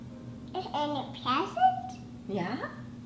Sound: baby talk

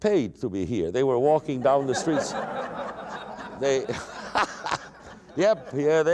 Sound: laughter

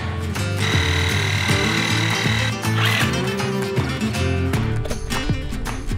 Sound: drilling scrubbing sounds

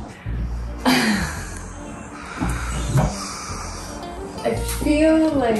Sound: laughing

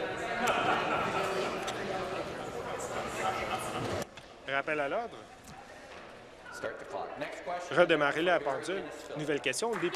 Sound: conversation din

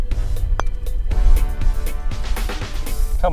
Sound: clink

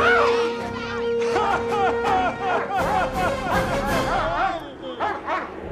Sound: crying and whimpering

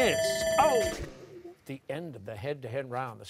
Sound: timer sounding

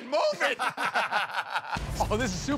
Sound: laughter

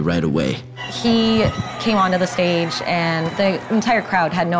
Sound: crowd screaming

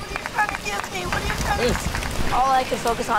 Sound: cement splashing

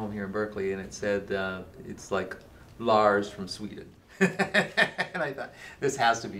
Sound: chuckling

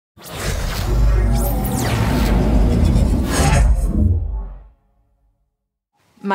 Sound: electronic music; air whooshing

